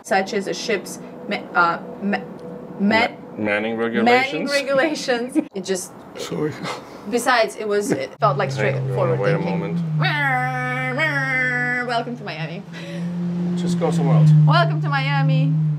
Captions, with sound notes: Such as a ships. Met, uh, met - Many regulations. - Manning regulations! (yawns) - Sorry! It just, besides it was. It felt like straight forward thinking. - Wait a moment. - Mrrrr, Mrrrrr. Welcome to Miami. (loud engine roaring) - Just go somewhere else. - Welcome to Miami!